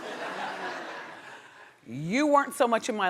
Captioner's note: audience laughing